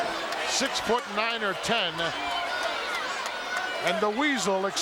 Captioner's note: attendees applauding